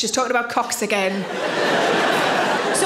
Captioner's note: audience laughing